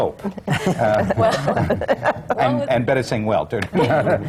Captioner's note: laughter